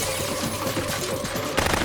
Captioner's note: gunfire continues